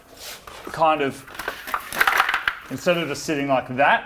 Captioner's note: rattles